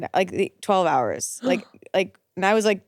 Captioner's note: gasps